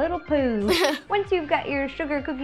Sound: giggling

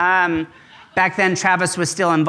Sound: audience laughs

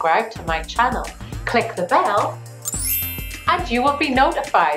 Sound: chime

